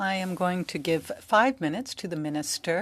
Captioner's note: speaking french